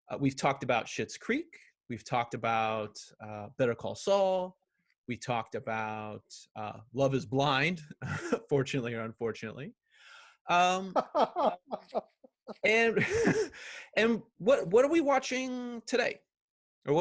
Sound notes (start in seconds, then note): 7.7 chuckles; 10.9 laughs